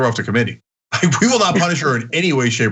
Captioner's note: laugh